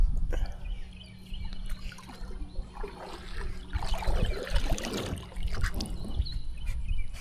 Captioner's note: water splashing